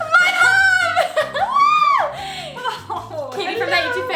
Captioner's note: high pitched laugh